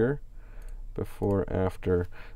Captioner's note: clicks on mouse